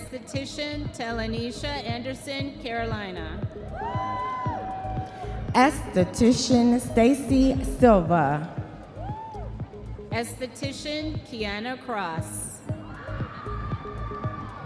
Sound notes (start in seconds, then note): 3.8 audience members cheering; 13.7 audience members cheering